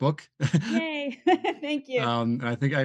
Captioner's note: laughs